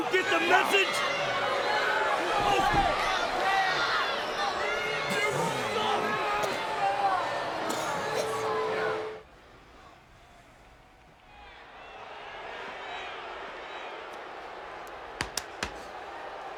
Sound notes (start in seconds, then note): 4.8 Seth coughs; 11.6 crowd boos